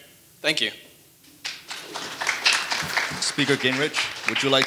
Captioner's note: audience applauding